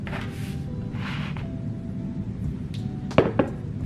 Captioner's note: paper rustling; pounding